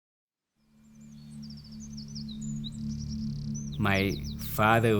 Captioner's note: birds chirping